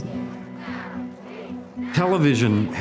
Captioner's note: protesters chanting